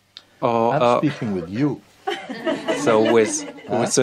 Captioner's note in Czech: smích